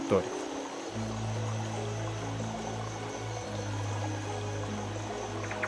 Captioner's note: sound of water flowing through a stream; sound of tropical birds